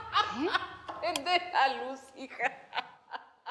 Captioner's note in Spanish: Risas